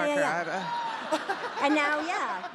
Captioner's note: audience laughing